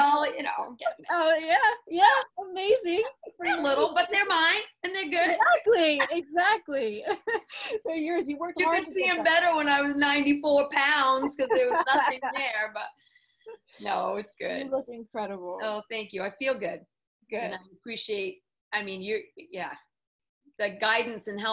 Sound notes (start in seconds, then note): 5.2 laughs; 12.6 laughs